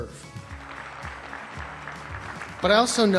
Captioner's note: audience applauds